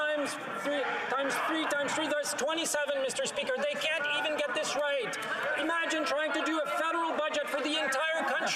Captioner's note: yelling